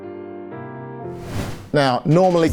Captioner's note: air whooshing